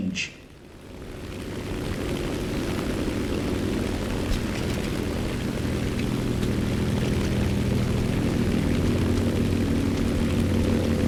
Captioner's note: aircraft Engines ,Gunfire, Flying Sounds